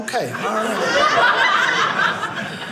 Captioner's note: audience laughing